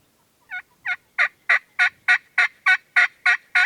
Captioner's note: distant turkeys gobbling; turkey call